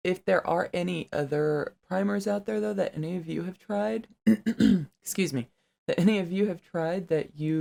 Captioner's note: coughs